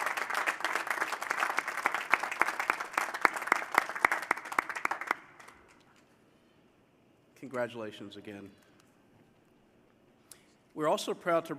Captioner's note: applause